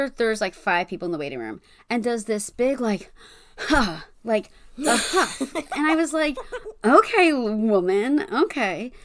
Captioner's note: huffs